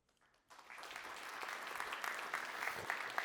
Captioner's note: audience applauds